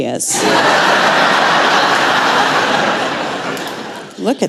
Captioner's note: laughter